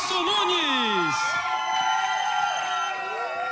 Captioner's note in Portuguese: gritos animados